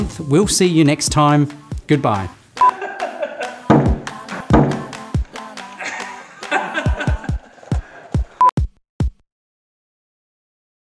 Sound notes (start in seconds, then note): 2.6 upbeat music; 2.6 beep; 2.7 laughter; 4.4 thud; 5.8 laughter; 8.5 beep